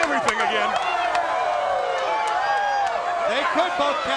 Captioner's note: crowd cheering